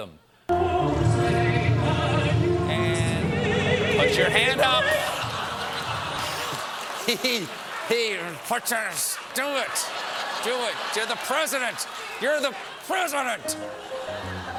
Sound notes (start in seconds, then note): 4.8 laughter